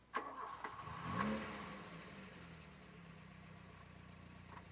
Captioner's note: engine revving